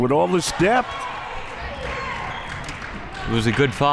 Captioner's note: clapping